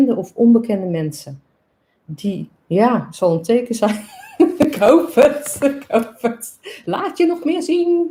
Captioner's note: laughs